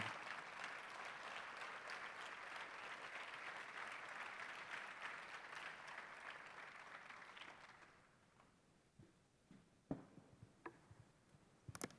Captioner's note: applause